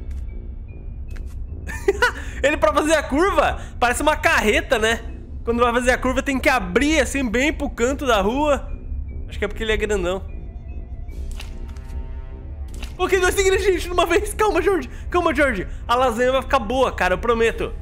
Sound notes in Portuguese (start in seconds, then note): 1.6 risos